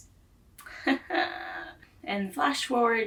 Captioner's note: pained forced laughter